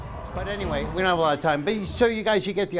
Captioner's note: cheering